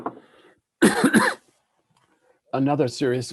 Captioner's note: coughs